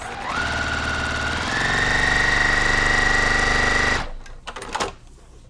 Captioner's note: sewing machine whirring